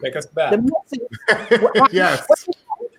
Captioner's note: laughing